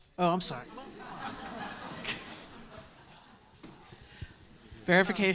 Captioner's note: students laughing